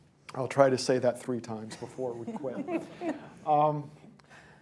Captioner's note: laughter